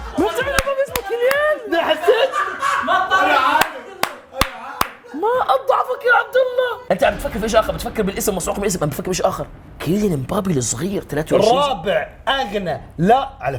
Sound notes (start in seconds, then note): 1.3 everyone laughing; 3.2 indistinct background chatter